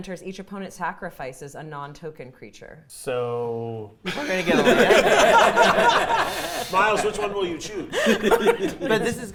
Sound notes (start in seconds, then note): 4.0 players laughing